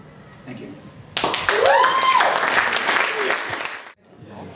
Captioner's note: applause